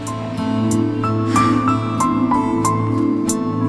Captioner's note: Tipsy exhales